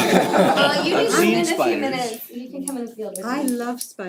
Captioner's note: laugh